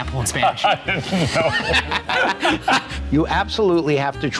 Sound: both laugh

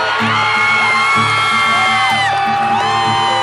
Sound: wild cheering

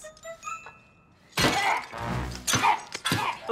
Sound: grunting

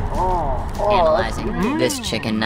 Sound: digital voice

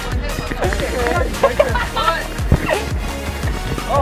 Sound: laughing

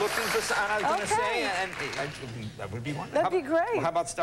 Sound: laughter and applause

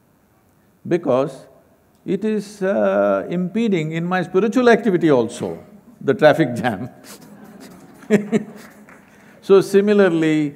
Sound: few Laugh

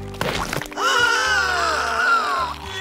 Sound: gasping; crying

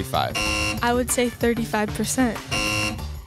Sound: buzzer; buzzer

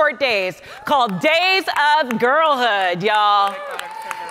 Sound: audience cheering

